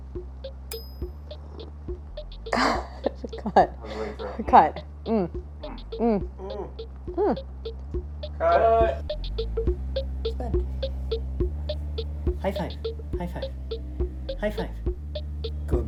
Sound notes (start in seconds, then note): 0.1 soft bright music; 2.4 Claire chuckles; 11.3 soft bright music